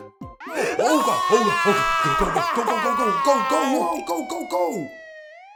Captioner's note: distant yelling